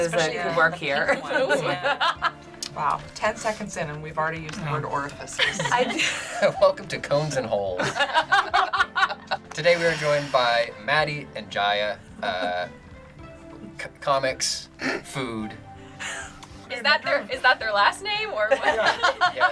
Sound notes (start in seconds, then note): 5.3 laughs; 7.1 group laughs; 14.3 chuckles